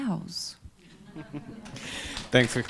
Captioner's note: laughing and Applause